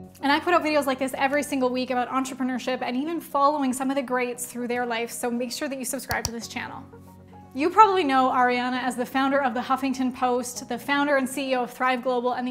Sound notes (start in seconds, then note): 6.0 mouse clicking